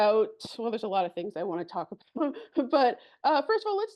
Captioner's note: chuckles